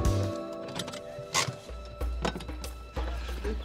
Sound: manual car brake clicks

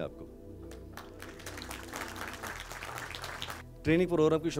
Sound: audience Clapping

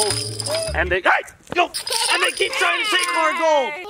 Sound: laughing

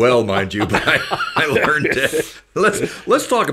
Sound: laughed

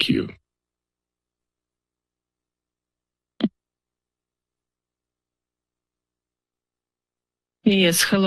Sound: silence

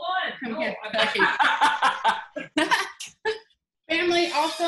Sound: laughs

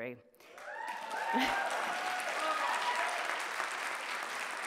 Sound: audience cheering

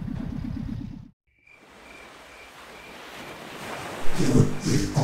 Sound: crickets

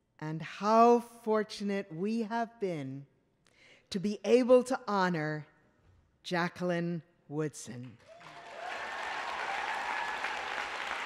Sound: applause

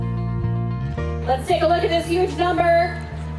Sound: woman On Microphone

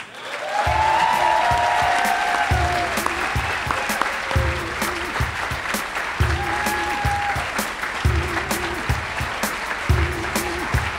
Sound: applause

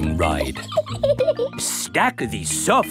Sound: laughs

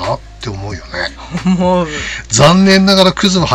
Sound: laughs

